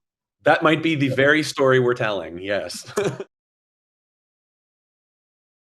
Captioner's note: laughs